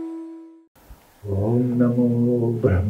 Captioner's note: chanting